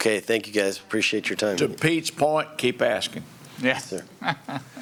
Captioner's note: laughter